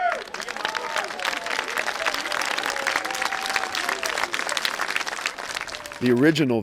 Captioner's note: audience cheering and applauding